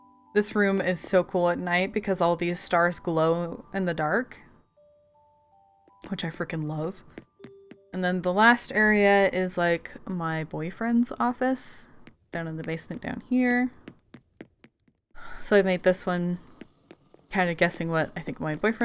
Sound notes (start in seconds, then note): none